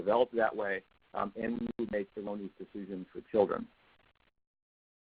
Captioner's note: audio goes chop